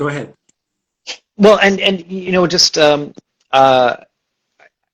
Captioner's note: stammers